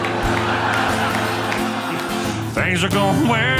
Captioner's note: audience laughing